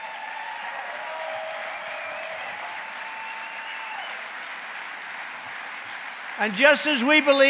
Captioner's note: applause